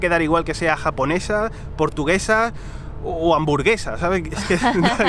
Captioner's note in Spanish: risas